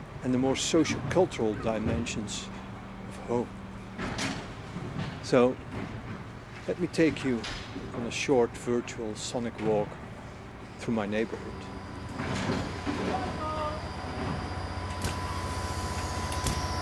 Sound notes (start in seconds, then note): 12.2 industrial sounds; 14.6 large machinery/vehicle